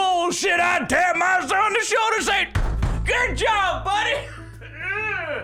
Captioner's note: bang, bang